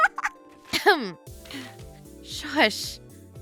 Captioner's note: laughs; clears her throat